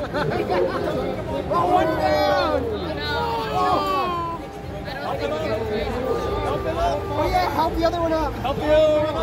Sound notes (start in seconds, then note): 3.1 various "oh no" sounds